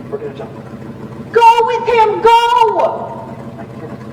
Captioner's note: truck motor sounds